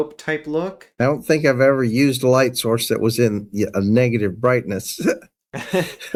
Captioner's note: laugh